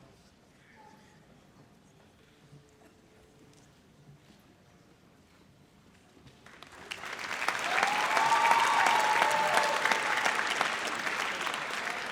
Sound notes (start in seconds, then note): 6.5 audience applauds